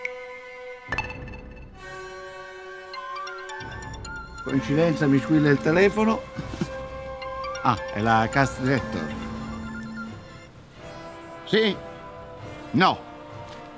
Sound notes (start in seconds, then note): 2.8 cellphone rings